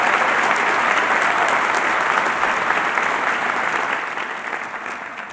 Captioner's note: applause